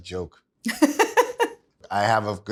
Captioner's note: laughs